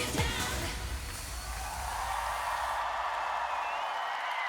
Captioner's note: applause